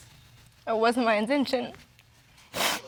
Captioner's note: voice shaking